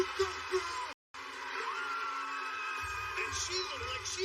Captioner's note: cheers and applause